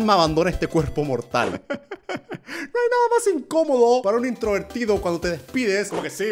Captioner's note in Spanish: risa